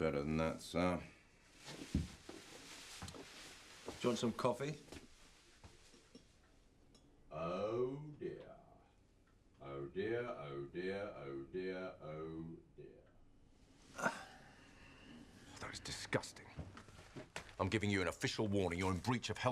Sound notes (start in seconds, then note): 14.0 Rob groans